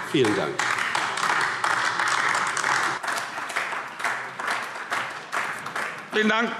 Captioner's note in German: Beifall AfD